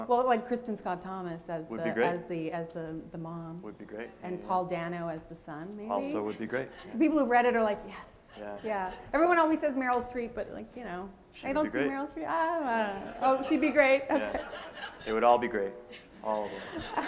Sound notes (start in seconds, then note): 15.9 laughter